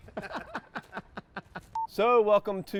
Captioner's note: laughing